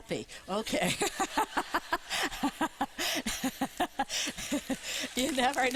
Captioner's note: laughing